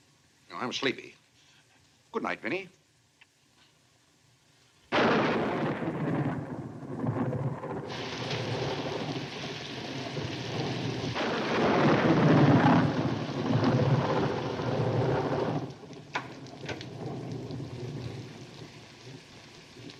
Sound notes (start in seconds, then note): 4.7 thunder crashing; 15.9 door opens